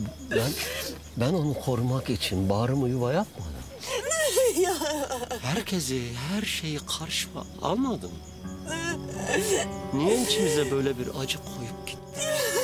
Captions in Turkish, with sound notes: Ben, ben onu.. ..korumak için bağrımı yuva yapmadım mı? (Ağlıyor) Herkesi.. ..her şeyi karşıma almadım mı? Ne için bize böyle bir acı koyup gitti?